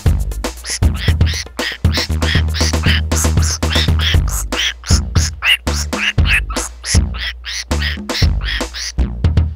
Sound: squawk squawk squawk squawk squawk

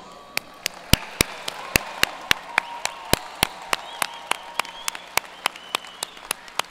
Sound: graduates cheers and applause

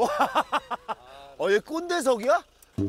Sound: chuckling

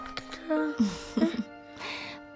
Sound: laughing

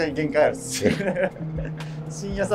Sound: laughing

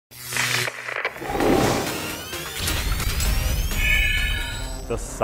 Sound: sound Effects

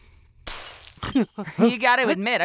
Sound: glass shatters

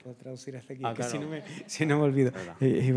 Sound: speaking in Spanish

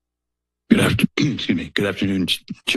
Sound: coughs

